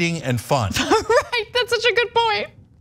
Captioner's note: laugh